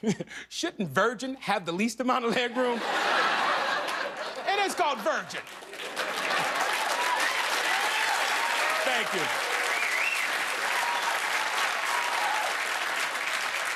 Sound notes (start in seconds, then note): 5.3 laughter; 13.5 cheers and applause